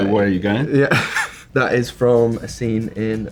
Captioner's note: laughs